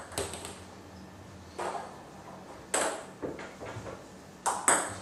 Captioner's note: ball ping pong hitting continues